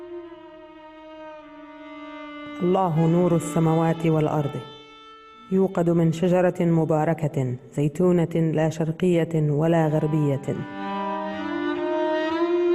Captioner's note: reading in Arabic